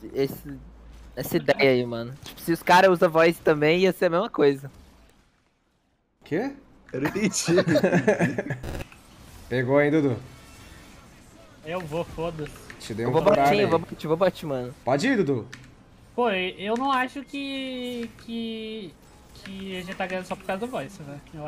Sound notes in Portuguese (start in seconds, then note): 7.0 risos